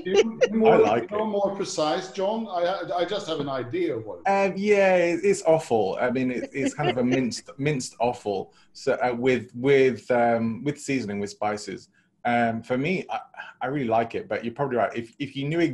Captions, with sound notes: So if I come to Sweden, I'll make that for you. (Laughs). Before you start, Richard, how do you get on with traditional Scottish food? On that subject. Have you tried haggis? Well, yes, I've tried haggis,